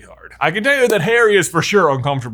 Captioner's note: claps